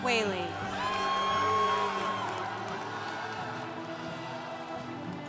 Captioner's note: congregation cheering